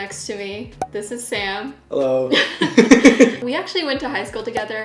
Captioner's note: laughing